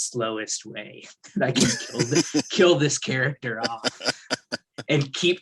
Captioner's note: laughs